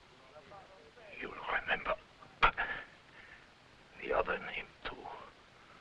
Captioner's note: groans